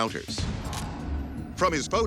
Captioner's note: camera shutter clicks